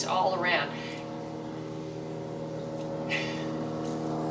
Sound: airplane louder

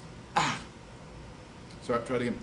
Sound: sighs

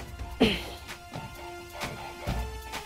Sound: Sakshi sighs

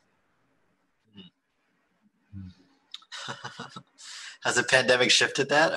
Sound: laughs

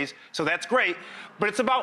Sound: audience murmurs

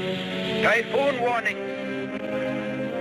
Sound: radio Announcer

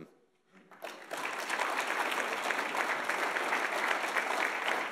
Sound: audience applauds

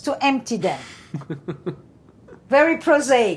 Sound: laughing

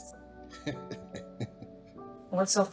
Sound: Bryan laughs

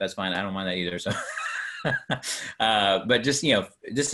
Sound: laughing

